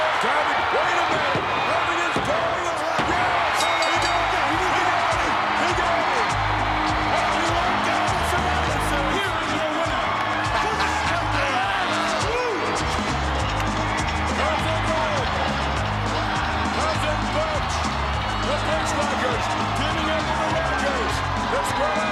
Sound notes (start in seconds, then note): 3.9 crowd cheering; 3.9 upbeat music